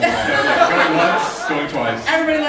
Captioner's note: audience laughing